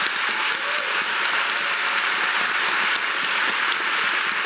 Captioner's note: audience applauding